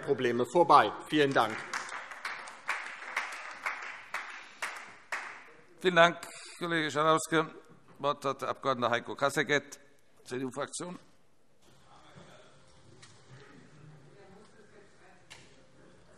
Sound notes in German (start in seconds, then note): 1.1 Beifall DIE LINKE und vereinzelt Freie Demokraten